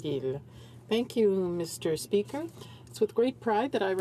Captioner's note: speaking in french